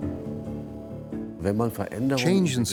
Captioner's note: speaking in German